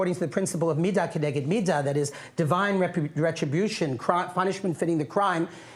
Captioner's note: non-english speech